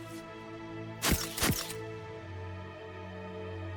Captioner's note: camera snaps